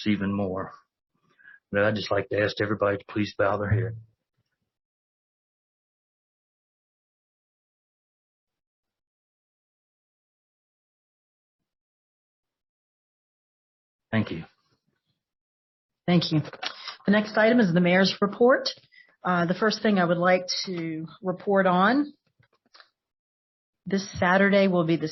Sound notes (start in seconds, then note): 5.3 moment of silence